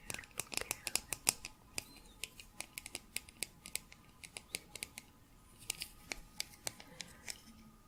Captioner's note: tapping on can